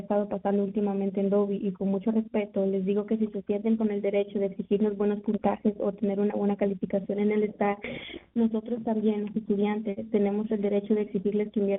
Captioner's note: speaking in spanish